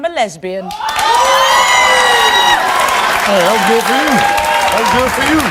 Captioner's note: audience cheers and applauds